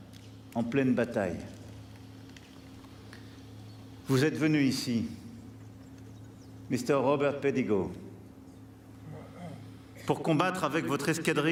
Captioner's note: speaking french